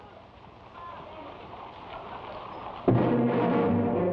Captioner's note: people chatter; thrilling music